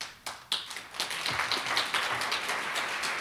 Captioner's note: applause